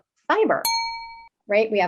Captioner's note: beep